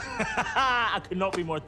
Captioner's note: laughing